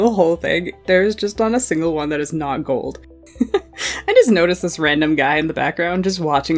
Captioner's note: laughing